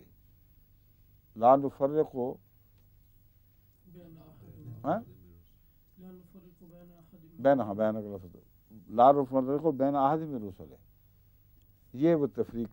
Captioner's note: Arabic